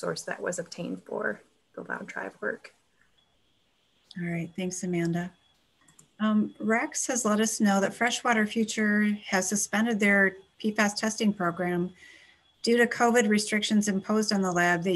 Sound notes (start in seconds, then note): 5.8 clicking